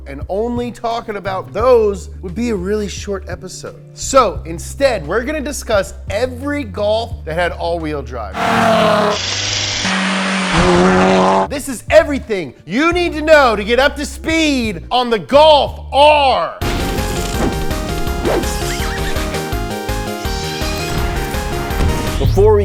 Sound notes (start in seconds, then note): 8.3 engine roaring; 17.5 upbeat music